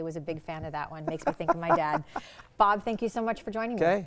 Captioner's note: laughing